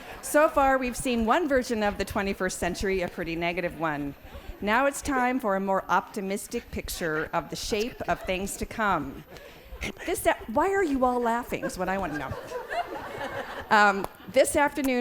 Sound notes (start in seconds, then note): 11.5 laughs